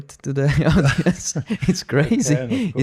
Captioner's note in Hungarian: nevetés